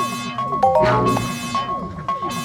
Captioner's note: alarm; notification; alarm